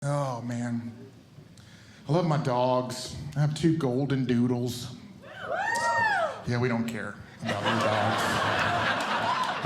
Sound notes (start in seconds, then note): 5.4 audience Cheering; 7.4 audience Laughing